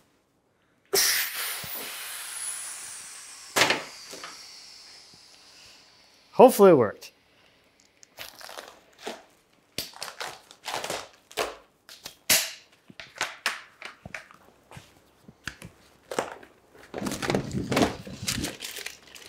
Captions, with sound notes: (air hisses) Hopefully it worked. (wrapping rustles) (wrapping rustles)